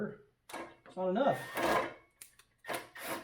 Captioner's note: drilling